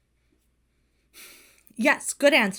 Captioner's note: Hana sighs